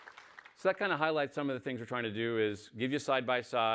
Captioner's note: applause